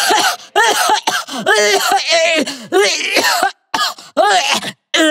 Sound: cough

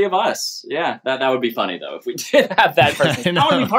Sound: laughter

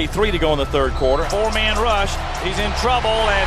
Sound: voiceover

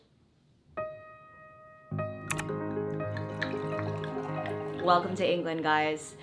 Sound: soft music; liquid splashing

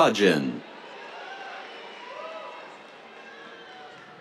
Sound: cheers

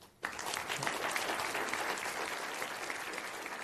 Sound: clapping

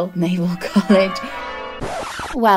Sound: church bells; record scratch

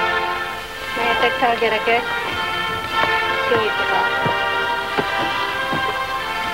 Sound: woman speaking in foreign language

